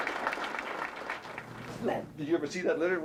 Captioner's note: applause